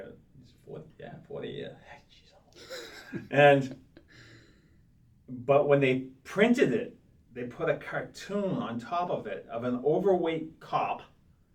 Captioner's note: laughs